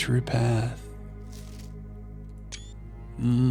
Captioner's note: beeping